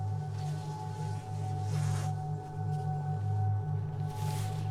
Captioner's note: zipper whizzing